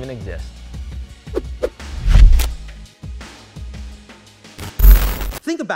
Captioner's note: electronic sound effects